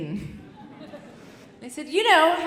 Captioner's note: audience chuckling